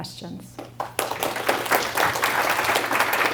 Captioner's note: applause